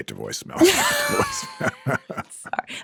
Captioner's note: chuckling